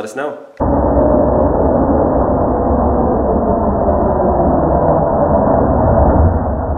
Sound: saw machine screeching in slow motion

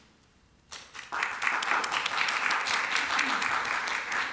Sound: applause

